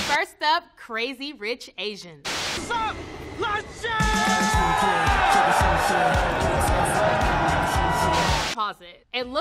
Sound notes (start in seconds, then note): 3.3 yells indistinctly; 3.4 crowd cheering; 3.9 upbeat party music